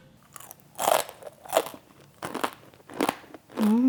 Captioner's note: crunches loudly